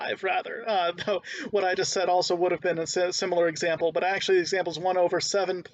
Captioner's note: laughing